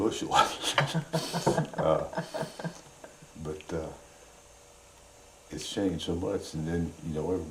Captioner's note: laughter